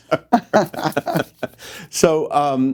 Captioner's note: laughing